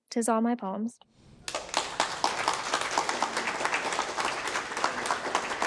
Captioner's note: audience clapping